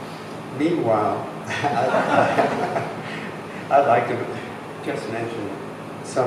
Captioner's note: laughs